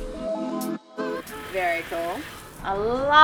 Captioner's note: water running